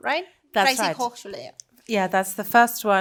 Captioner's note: speaking foreign language